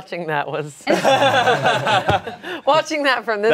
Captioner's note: everyone laughs